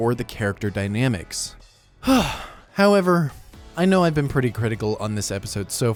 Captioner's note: sighs